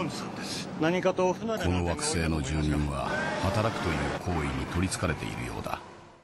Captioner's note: boss speaks in Japanese; narrator speaks in Japanese